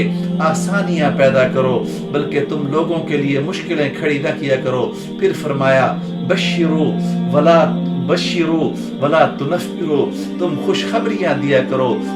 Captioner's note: Arabic